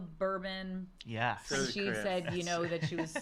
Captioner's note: laughs